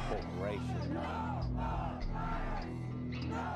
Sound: people Shouting

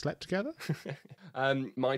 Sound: laughs

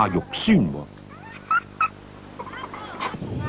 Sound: high-pitched giggle/squeal

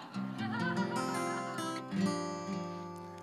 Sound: laughter

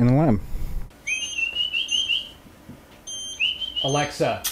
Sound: whistling; device beeping

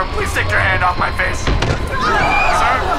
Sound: screams

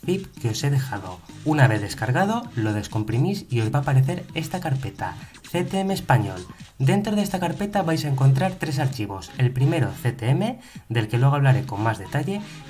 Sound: Spanish

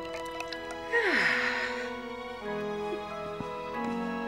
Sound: sighs

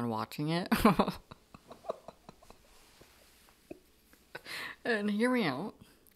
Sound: laughing

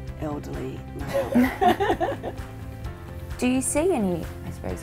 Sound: laughter

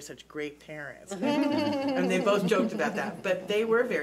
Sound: laughing

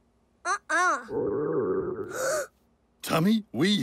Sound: Mr. Simon gasps

